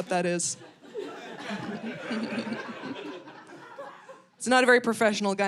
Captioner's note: audience laughing